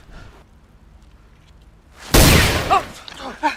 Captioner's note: bullet hits wall